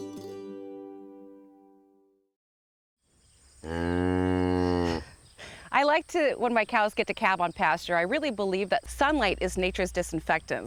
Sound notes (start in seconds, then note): 3.7 mooing deeply